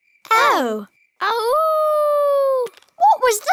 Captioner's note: howling